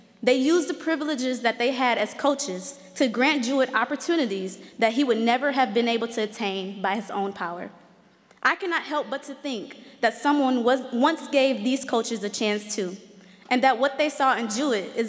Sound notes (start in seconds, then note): none